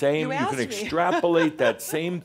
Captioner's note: she laughs